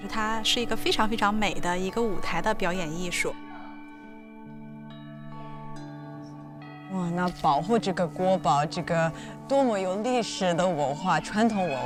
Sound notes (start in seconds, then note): 0.1 speaking foreign language; 5.4 mystical music; 7.3 speaking foreign language